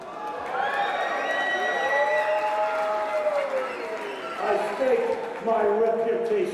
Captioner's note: crowd cheering